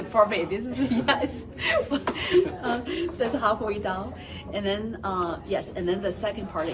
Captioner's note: laugh